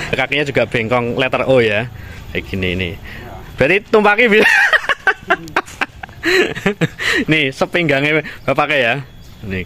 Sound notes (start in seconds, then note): 4.2 laughs